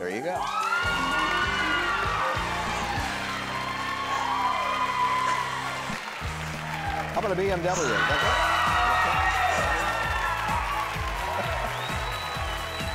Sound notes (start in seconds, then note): 1.1 crowd cheering; 9.2 crowd cheering; 10.6 upbeat music; 12.7 crowd whistling